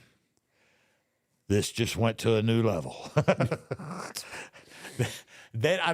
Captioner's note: laughs